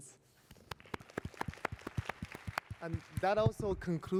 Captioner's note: applause